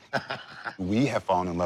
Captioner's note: laughs